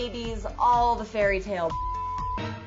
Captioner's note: beep